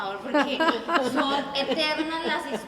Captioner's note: laughs